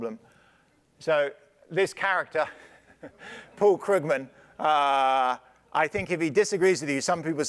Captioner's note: laugh